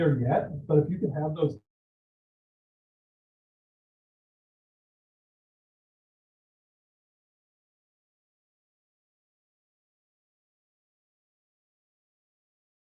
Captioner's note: audio drop